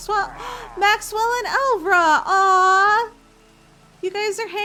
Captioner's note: gasp